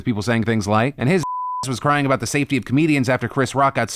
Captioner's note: beep